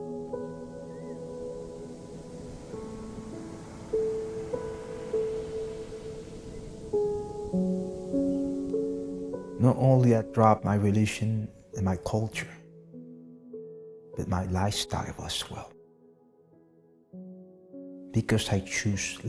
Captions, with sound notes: (gentle music continues) (waves crashing) Not only I dropped my religion and my culture, but my lifestyle as well, because I choose life.